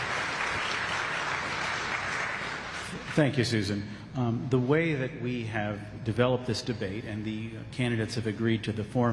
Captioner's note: applause